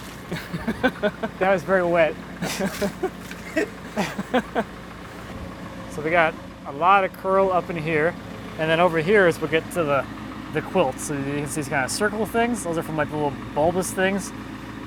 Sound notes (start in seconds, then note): 2.4 everyone laughs